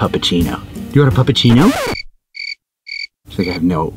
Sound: crickets chirping

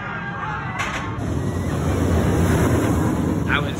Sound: screaming; rollercoaster roars

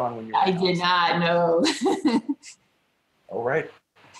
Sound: laughs

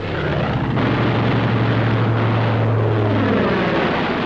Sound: intermittent gunfire throughout scene

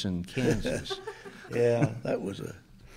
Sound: chuckles

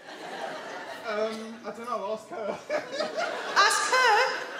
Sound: he laughs

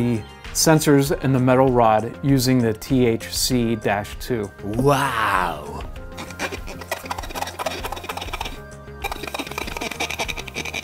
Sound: silly voice WOW; squeaky window cleaning sound

